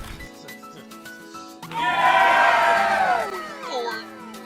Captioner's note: Team 2 cheers